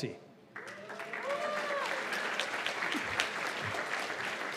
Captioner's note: cheers and applause